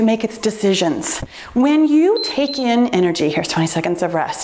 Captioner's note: timer beeps